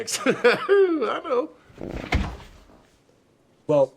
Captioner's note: laughs; farts